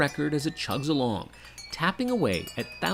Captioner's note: clinking